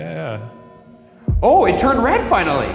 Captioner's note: device beeps